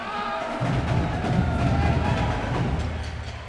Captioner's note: person shouting; crowd cheering